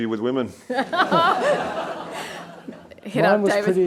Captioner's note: attendees laughing